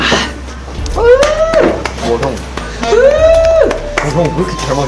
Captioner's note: clapping